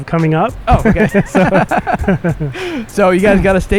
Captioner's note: both laugh